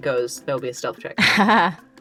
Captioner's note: chuckles